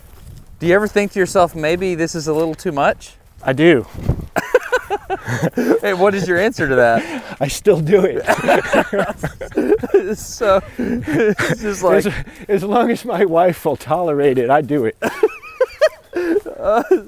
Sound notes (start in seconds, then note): 4.1 laughs; 7.9 both Laughing